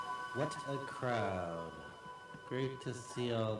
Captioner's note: voiceover